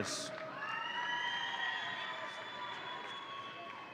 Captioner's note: audience cheering